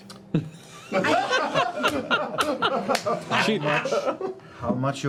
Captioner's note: laughter